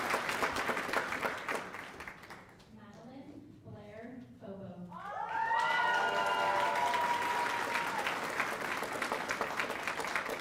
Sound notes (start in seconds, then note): 2.7 applause